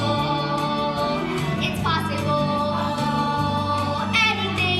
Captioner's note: echo